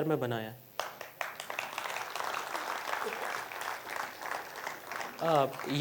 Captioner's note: applause